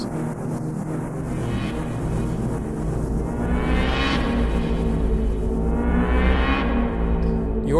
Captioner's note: electric wave begins with varying intensity